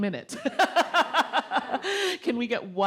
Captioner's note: all laugh